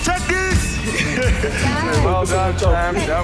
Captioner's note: laughing